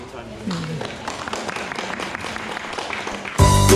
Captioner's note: clapping